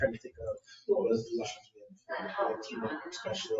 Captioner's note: speaks distantly